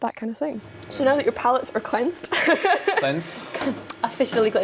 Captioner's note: laughs